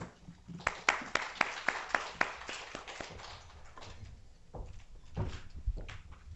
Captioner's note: applause